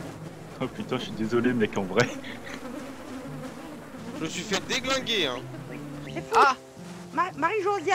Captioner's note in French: rires